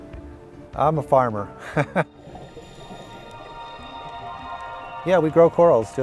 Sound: laughing

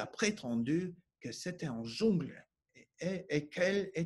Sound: speaking French

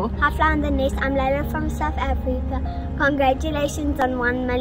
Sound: in foreign language

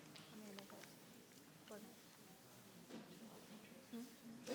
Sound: people chattering

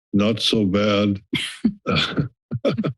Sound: laughing

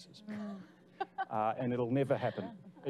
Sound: laughing

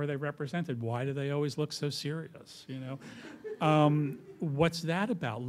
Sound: laughter

